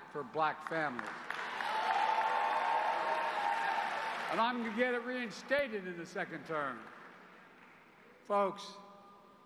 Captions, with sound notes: $300 a month per child, per family through the child tax credit which, child poverty in half for black families. [Applause]